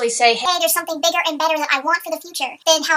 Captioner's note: high-pitched voice